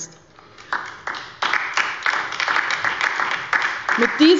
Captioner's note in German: Beifall bei der LINKEN und der SPD